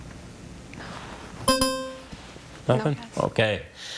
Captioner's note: timer chiming